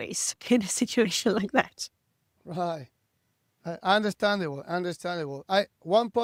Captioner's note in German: lacht